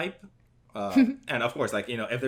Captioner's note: laughs